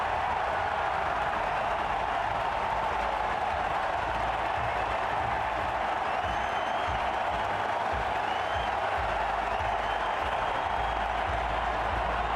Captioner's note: applause